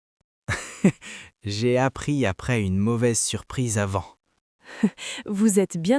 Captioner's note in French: rire; rire